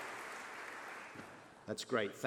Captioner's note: applause